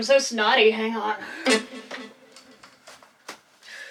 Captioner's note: snot